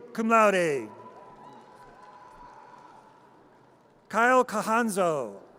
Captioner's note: audience cheers